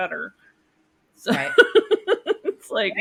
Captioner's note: laughing